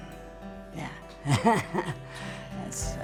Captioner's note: laughs